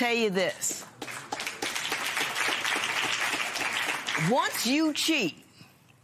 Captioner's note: applause